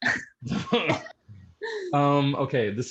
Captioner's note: laughter